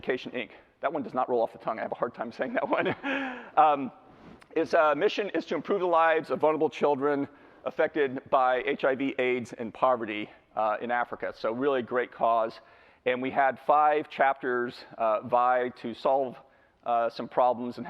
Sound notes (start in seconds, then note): 2.6 laughs